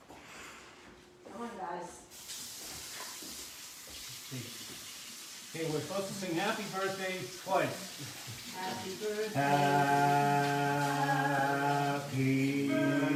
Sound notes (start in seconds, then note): 2.6 splashing